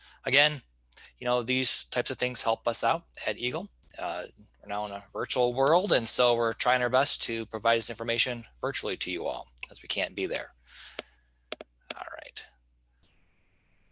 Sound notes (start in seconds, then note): 11.3 clicking